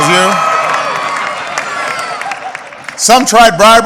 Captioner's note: applause